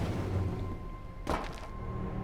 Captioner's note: thud